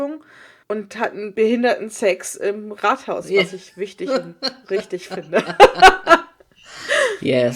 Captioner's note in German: beide lachen